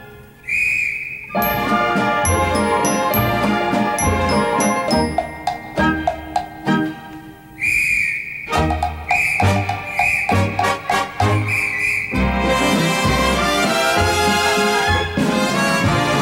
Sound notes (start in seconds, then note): 0.4 whistles tooting; 7.4 whistles tooting; 12.0 perky music continues